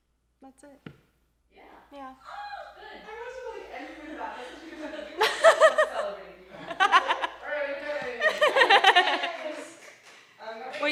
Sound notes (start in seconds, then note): 2.2 happy scream; 6.1 group laugher